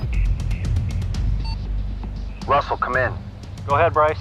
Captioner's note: radio beeps